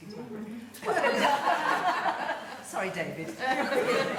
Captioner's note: laughing